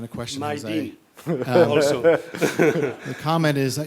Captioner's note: laughing